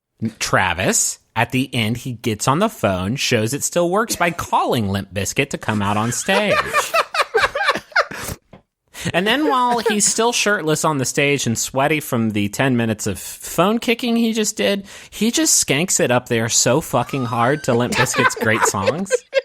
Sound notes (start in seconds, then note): 5.6 laughing